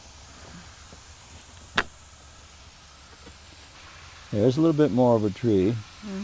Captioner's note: water spraying